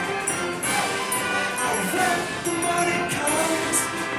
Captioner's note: cheering